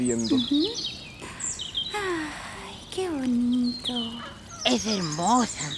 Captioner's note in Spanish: Sonido de la naturaleza